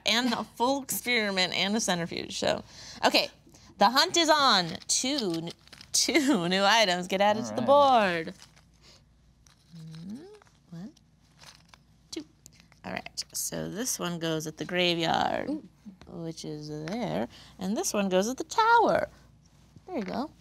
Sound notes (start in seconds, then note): 9.7 items rattling; 9.7 humming